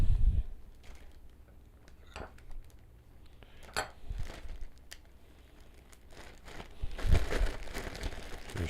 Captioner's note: silence